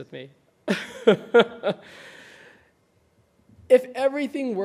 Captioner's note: laughing